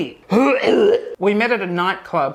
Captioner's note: retching